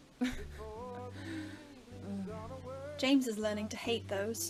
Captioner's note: Regulus laughs